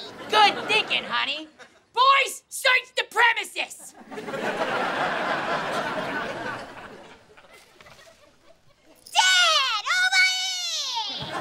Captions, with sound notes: Good thinking, honey! Boys, search the premises! [laughing] Dad, over here!